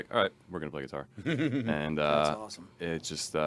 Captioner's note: laughing